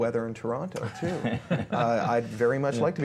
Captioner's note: chuckling